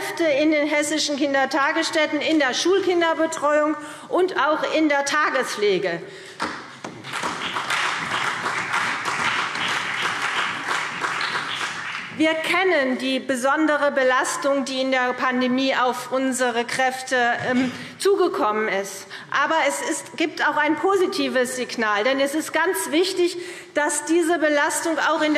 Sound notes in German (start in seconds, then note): 6.8 Beifall CDU und BÜNDNIS 90/DIE GRÜNEN